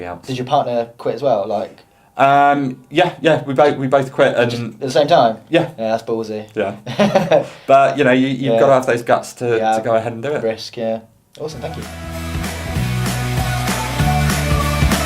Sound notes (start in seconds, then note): 6.8 laughter; 11.6 rock music